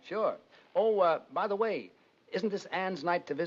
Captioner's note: none